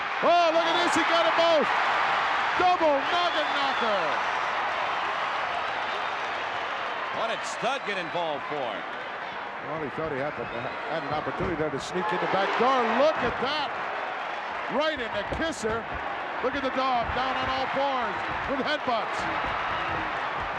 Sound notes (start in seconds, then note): 4.0 crowd cheering